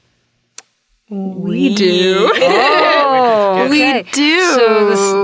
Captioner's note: chuckles